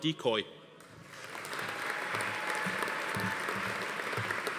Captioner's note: audience applauding